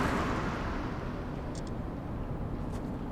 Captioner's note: phone camera clicks